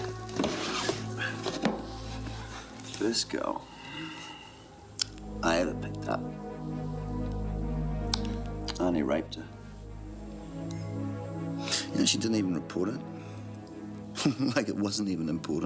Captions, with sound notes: The first girl I ever picked up, I only raped her. You know she didn't even report it? (laughs) Like it wasn't even important.